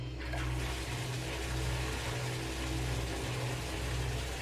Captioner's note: water splashing